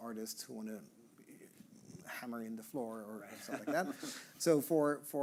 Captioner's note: chuckling